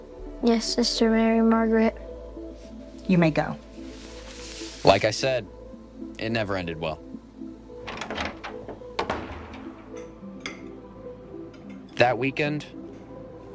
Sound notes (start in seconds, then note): 7.8 latch clicks; 9.8 forking clinking